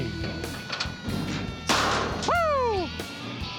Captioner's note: bang